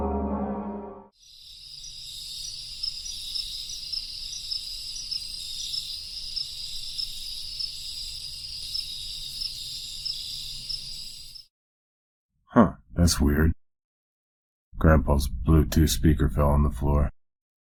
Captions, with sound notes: [suspenseful music fades] [chirping] [chirping] Huh, that's weird. Grandpa's Bluetooth speaker fell on the floor.